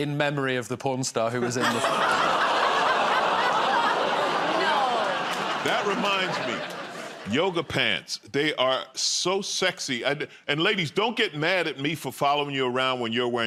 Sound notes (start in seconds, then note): 1.4 laughter